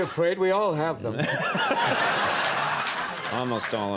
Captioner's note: audience laughs